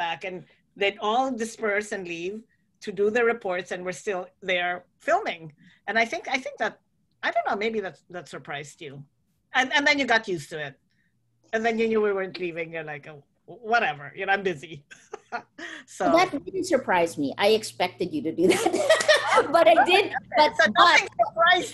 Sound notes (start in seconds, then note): 15.2 laughs; 18.4 laughter